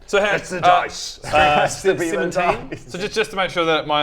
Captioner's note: crying